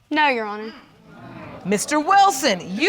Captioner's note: audience exclaiming